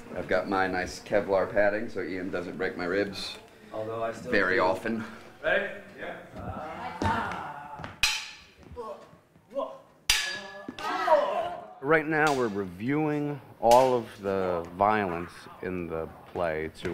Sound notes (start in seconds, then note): 6.4 yells; 9.0 grunting